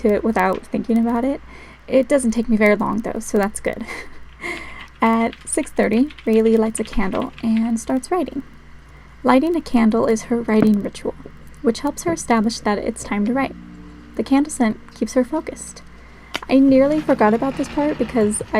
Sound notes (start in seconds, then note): 3.8 laugh